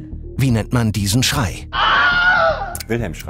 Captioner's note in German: Schrei